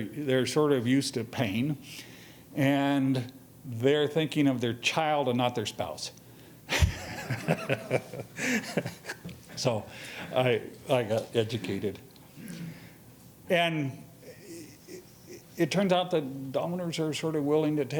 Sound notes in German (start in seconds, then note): 6.7 lacht